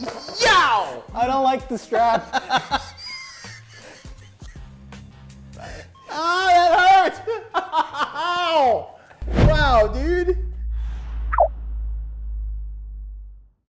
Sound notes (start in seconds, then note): 2.0 laughter